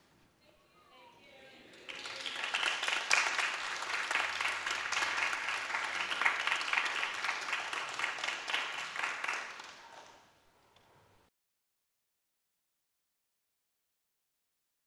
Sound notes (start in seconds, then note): 1.7 applause